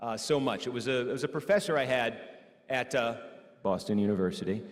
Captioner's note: lowers voice